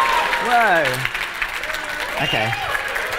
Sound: cheering

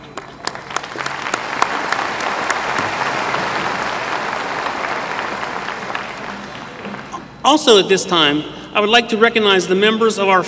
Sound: applause

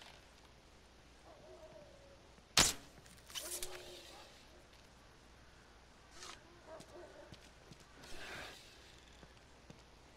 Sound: dogs barking

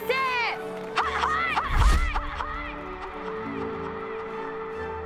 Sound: hut hut echoing

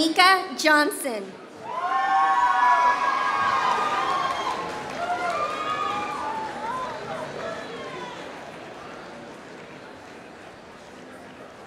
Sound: applause

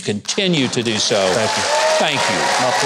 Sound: audience applauding

